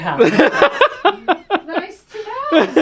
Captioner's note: laughing